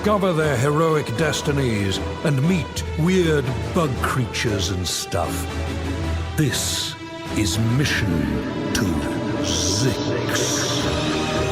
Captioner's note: echoing